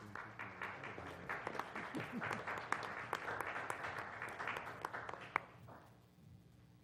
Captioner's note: applause